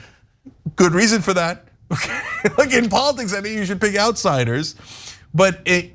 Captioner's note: laugh